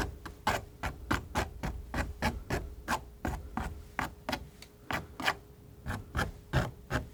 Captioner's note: scratching